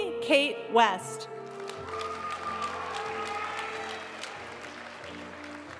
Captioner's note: audience cheering and applauding; graduation music